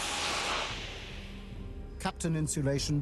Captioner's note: sizzling